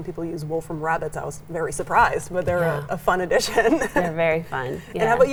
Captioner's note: laughs